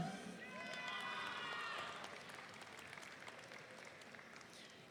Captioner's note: audience cheering